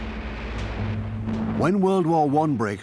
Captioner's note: sound of gunfire